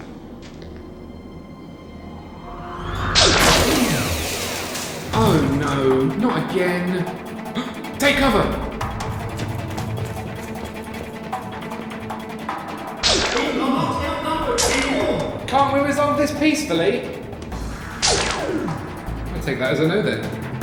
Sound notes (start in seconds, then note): 7.5 gasps; 9.3 action music